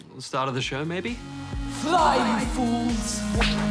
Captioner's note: echoes